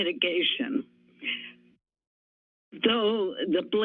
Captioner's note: pause